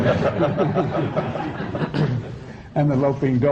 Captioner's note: laughter